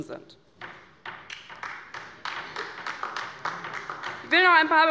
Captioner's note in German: Beifall bei der LINKEN